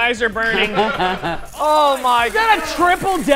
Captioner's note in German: lacht